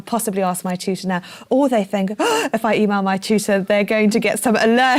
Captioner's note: gasp